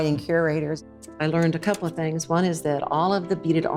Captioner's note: slide projector clicks